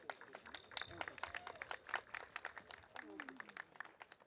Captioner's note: audience applauding